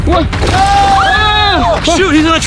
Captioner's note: screaming